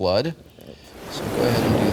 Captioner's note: waves crashing